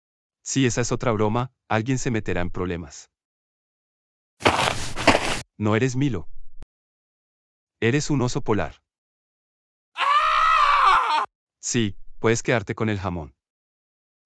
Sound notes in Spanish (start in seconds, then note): 4.4 FX - Footsteps - On Multiple Dirt - Walk; 9.9 FX - Scream - Male